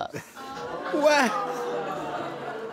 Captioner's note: laughs nervously